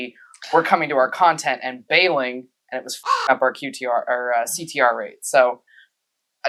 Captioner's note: caw